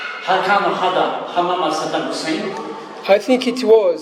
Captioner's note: dialogue in Arabic